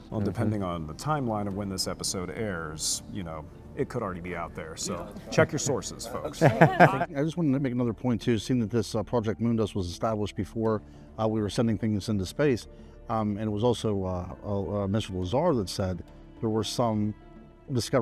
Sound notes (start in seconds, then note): 6.4 guests laugh